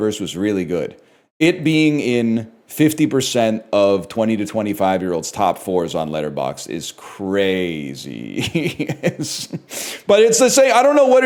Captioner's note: laughs